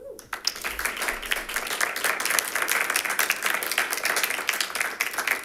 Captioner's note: members clapping